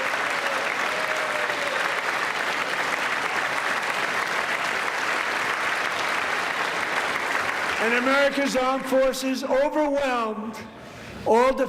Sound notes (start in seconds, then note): 0.0 applause